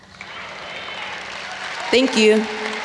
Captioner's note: audience applauds